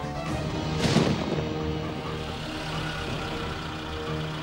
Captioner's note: rapid tense orchestral music; thunder rumbling